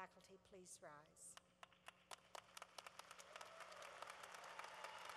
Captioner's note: cheering